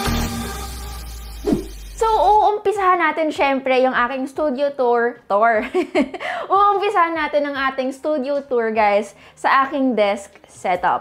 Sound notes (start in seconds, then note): 5.5 laughs